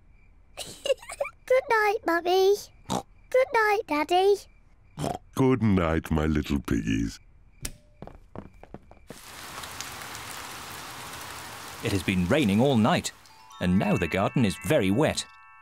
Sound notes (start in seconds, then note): 0.6 giggles; 2.1 oinks; 9.0 rain pattering